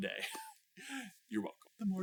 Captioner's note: chuckles